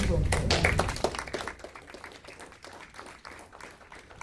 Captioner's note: audience clapping